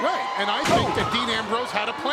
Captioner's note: body thuds